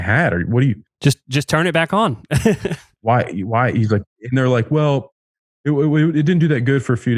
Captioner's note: laughs